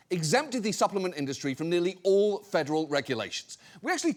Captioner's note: none